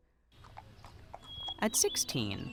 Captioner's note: hooves clacking; birds singing